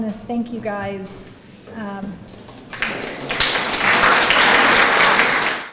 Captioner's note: applause